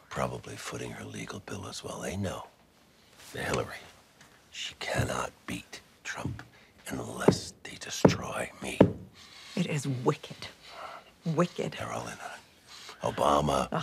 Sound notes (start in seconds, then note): 8.6 walking stick thumping floor